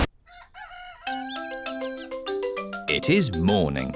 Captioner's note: cockerel crows